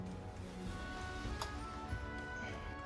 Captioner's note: sound of relay switching